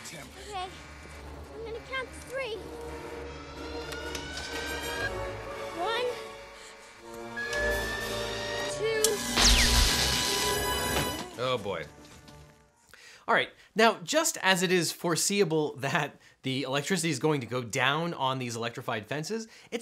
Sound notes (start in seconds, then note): 7.0 alarms blare; 7.2 zapping